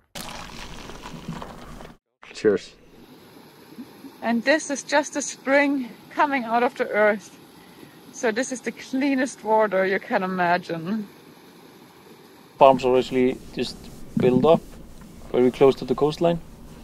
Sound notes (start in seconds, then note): 0.0 coffee pouring; 11.8 water babbling